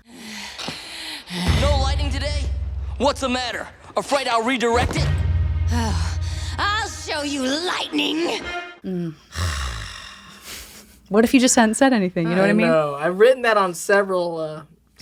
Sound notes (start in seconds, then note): 0.1 Azula pants heavily; 8.8 Dante sighs